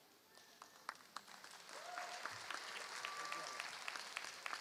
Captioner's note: applause